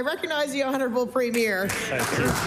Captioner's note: applause